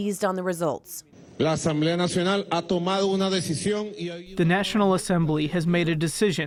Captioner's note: through translator